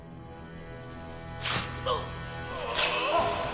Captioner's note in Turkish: Kılıç sesi